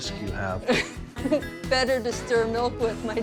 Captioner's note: chuckling